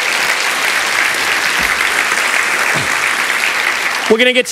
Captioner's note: applause